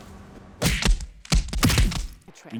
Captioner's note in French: Bruit de bagarre